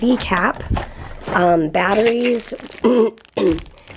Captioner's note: clears throat